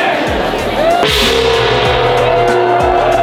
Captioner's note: gong ringing; people cheering